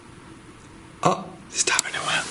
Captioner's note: soft taps